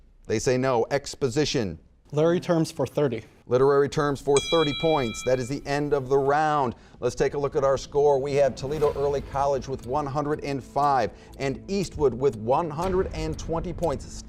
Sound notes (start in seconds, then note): 4.3 bell rings